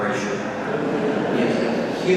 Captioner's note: congregation laughing